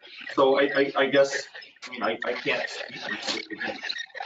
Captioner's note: distorted audio